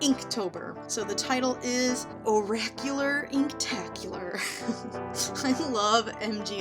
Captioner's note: giggles